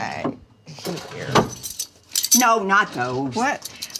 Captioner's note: spoons clattering